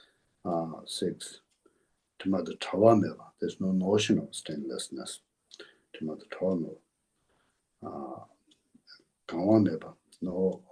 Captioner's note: tibetan